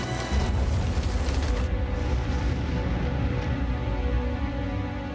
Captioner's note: volcanic explosion